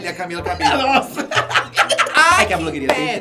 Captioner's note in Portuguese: risos